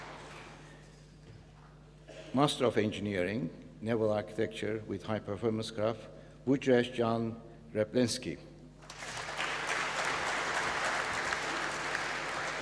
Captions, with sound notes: Master of engineering naval architecture with high performance craft, Meghan Barrett. (APPLAUSE)